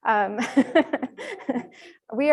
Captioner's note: laughter